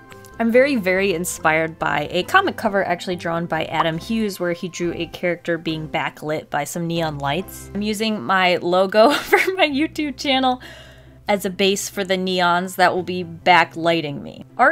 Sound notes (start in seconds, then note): 10.2 laughs